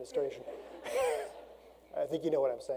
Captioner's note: audience laughs